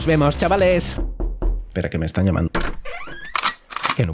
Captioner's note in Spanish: llaman a la puerta